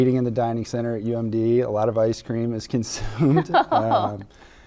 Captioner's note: laughing